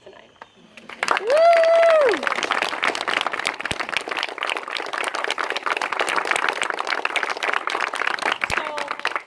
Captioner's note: loud Applause and cheers